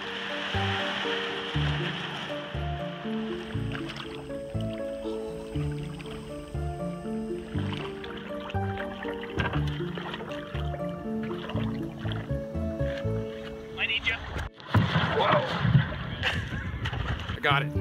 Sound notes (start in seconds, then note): 0.2 water splashing; 4.2 gentle music; 4.2 water trickling; 15.0 water splashing